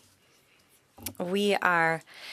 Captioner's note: speaking French